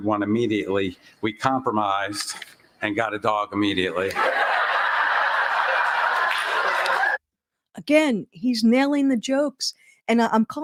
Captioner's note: laughter